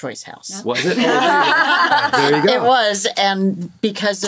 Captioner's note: all laughing